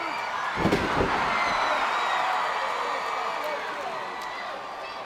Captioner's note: crowd cheers